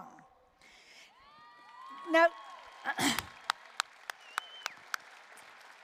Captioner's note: applause, cheering